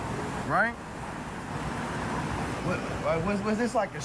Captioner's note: traffic streaming